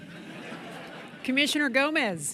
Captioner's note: laughter